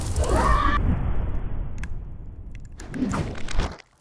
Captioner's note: yelling